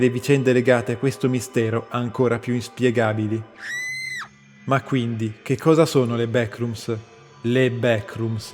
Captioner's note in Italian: urlo